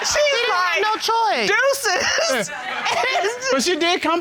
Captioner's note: laughs